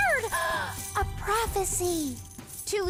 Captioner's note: gasps